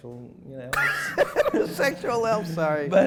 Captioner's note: laughter